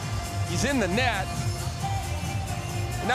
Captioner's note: none